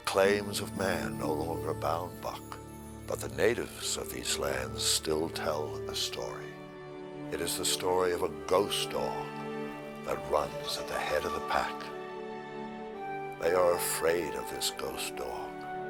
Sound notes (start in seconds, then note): none